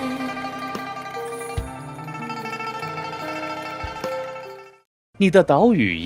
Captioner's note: bell Ringing